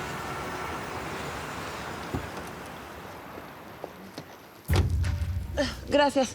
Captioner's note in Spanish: bullicio en la calle